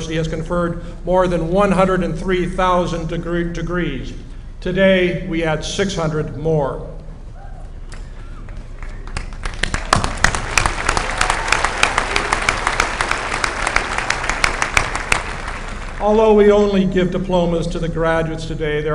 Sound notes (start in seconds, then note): 9.2 applause